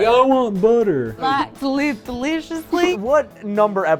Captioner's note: yokel voice